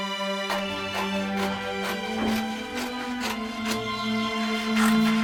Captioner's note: scissors cutting